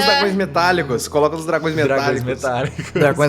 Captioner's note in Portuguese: Risadas